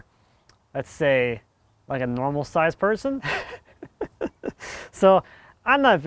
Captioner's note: laughs